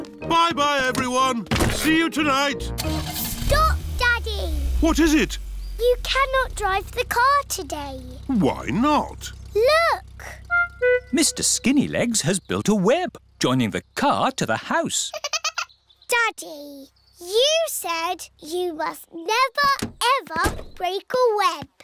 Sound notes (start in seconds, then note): 15.1 giggling